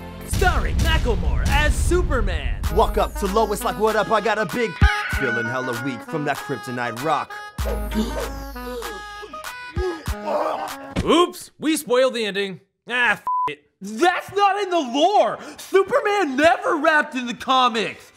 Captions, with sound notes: Starring Macklemore as Superman! Walk up to Lois, like "What up? I got a big c-ck!" Feelin' hella weak from that kryponite rock. (gasps) (groans) Oops! We spoiled the ending. Aaah, f-ck it! That's not in the lore! Superman never rapped in the comics!